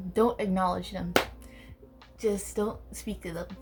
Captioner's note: aggresively claps hands